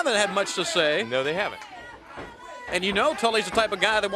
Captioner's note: crowd cheering